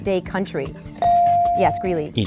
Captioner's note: bell dings